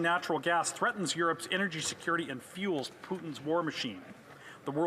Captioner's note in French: voix de l'interprète